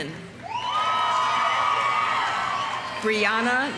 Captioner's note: audience applauding; audience cheering